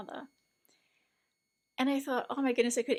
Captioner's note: excited inhale